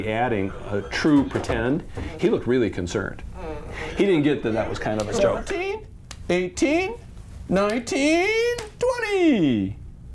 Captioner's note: counting in background